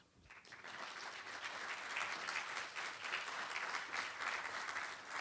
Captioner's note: applause